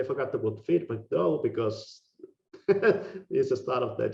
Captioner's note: laughing